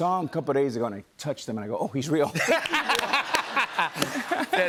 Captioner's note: laughter